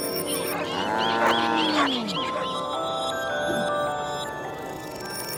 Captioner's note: cows moo; ice cream truck bells